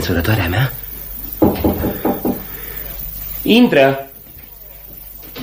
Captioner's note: knocks on the door